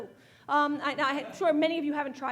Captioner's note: audience laughing